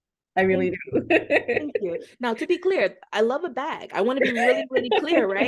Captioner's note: laughter